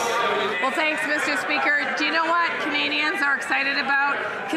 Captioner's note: some Applause